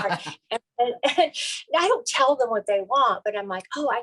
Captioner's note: chuckles